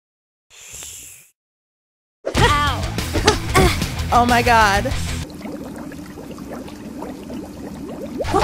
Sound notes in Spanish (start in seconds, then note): 0.6 sorbe; 2.4 música rock